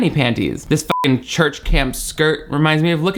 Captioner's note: beep